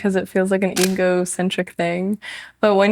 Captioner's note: shutter clicks